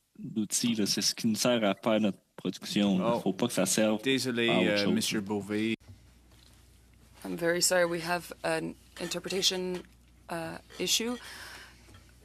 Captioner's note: speaking French